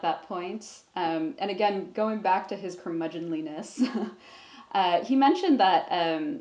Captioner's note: chuckles